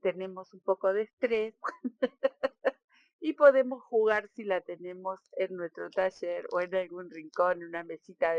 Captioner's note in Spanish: risas